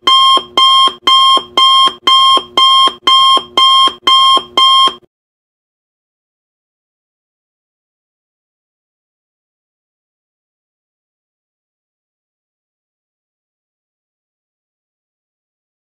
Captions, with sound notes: 30 Minute Timer Countdown (No Music) + 1 Hour Loud Alarm